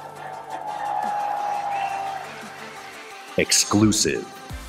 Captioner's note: audience cheering